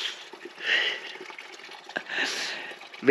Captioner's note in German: Lachen